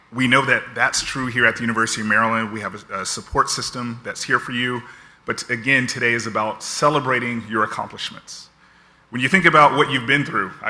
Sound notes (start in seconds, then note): none